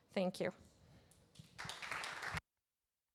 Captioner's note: audience applauds